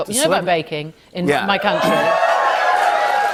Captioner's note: cheers and applause